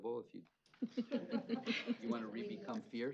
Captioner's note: laughter